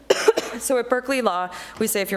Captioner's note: coughs